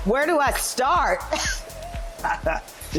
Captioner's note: laughing